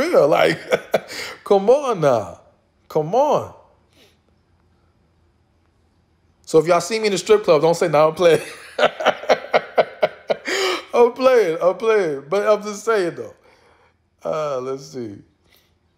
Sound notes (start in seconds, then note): 8.4 laughs